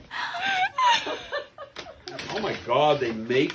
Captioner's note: all chuckling